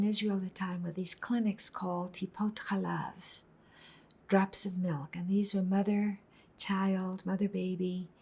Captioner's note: hebrew